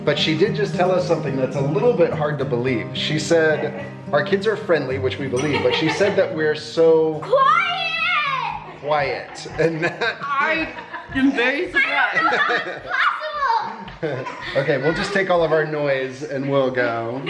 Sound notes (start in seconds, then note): 13.8 laughs